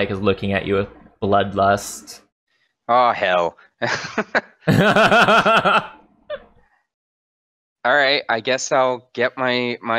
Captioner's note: laughter